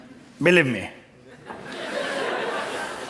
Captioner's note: laughter